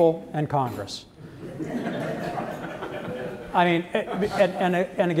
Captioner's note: laughter